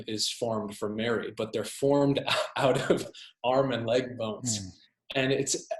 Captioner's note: laughs